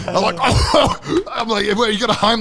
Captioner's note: coughing